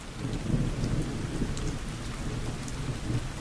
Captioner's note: rainstorm